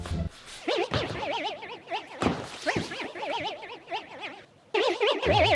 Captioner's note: mating call